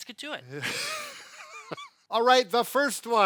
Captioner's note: laughs